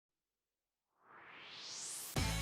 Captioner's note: swoosh